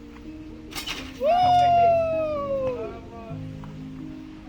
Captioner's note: cheering